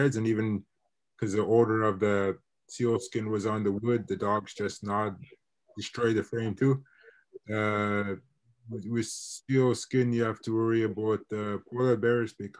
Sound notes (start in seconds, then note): none